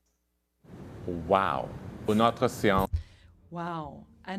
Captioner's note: speaking in French